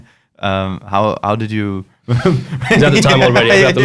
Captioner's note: laughs